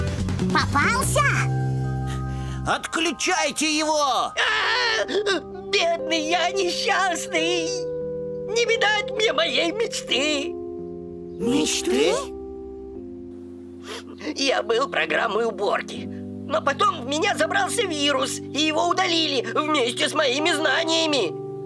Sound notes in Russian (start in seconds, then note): 4.3 "ЛУЧИК" кричит